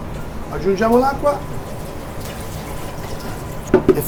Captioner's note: Italian